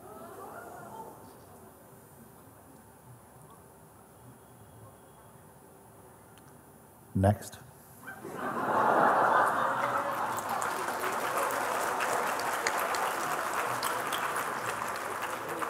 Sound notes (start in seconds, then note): 10.0 Lachen und Applaus